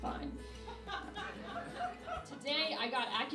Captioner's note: laughing